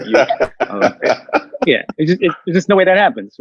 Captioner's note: all laughing